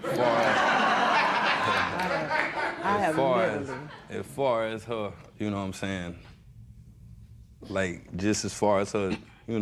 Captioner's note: laughter